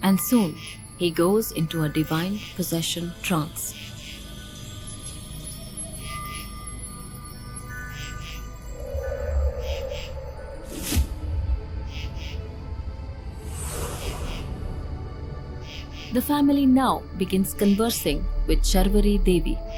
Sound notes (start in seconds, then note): 3.8 cricket chirping; 3.8 eerie music